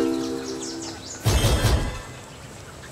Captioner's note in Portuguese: Ruídos de vento